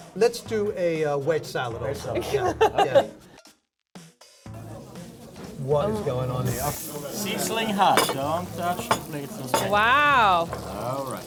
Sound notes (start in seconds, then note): 2.2 laughs